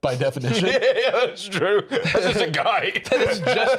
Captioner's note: laughing